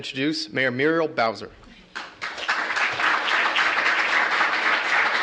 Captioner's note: applause